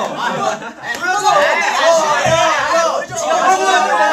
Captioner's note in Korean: 시끌시끌